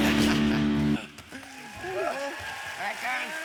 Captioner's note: applause